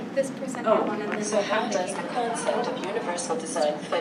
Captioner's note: digitized Female Voice